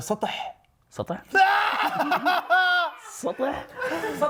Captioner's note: laughs